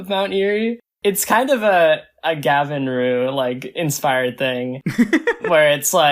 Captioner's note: laughs